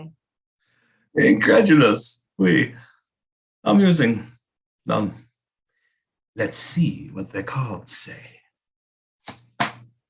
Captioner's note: shuffling fortune cards